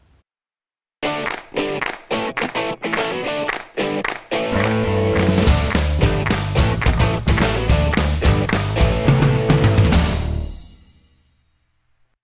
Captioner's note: claps